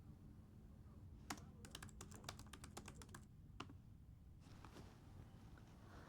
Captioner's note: laptop keyboard clicking